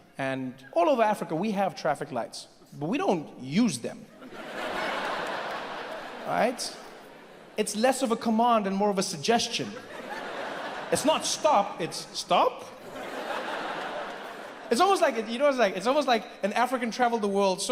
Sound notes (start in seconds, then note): 4.1 audience laughs; 12.8 audience laughs